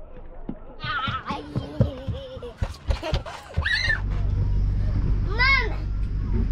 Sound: laughing

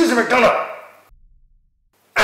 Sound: silence

